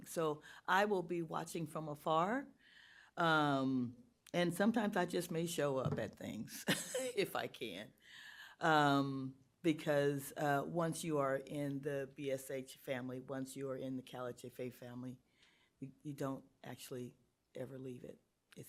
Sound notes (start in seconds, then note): 7.9 laughs